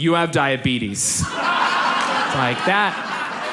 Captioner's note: audience laughs